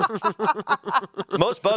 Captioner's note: everyone laughs